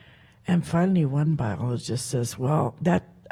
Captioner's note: speaks Halkomelem